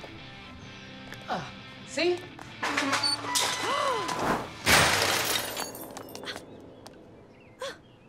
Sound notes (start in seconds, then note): 3.3 Veronica gasps